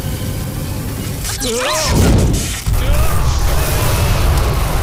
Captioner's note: Plane explodes